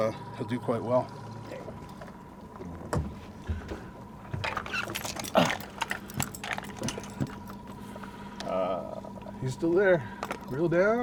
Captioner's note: groaning